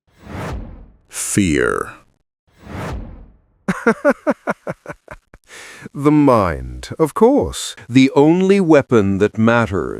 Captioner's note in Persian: خنده